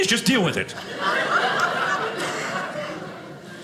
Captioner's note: audience laughing